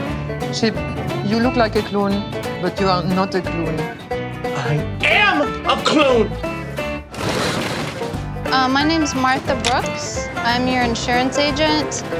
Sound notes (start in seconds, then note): 7.1 crashing